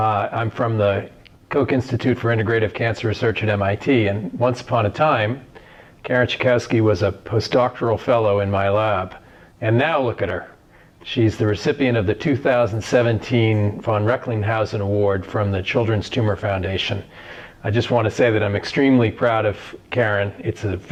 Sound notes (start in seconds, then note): none